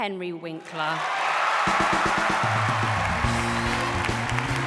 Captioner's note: applause